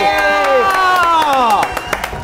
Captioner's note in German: Jubel